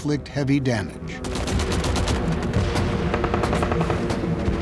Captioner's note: gunfire